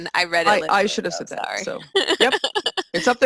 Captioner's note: laughs